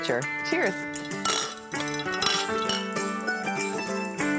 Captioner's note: glasses clinking